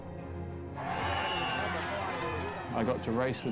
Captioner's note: cheering